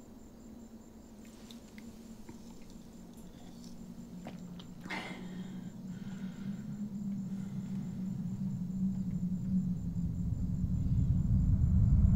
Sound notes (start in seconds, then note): 4.8 Andrew exhales; 8.9 suspense music